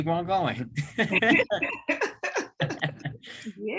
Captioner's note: laughs